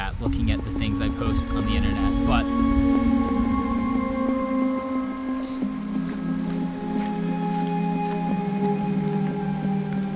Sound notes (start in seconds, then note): 2.9 footsteps; 2.9 intense upbeat music